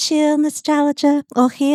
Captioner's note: speaking in foreign language